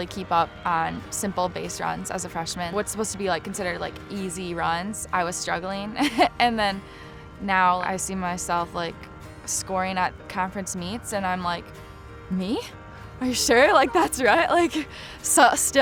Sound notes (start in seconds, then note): 6.0 laughs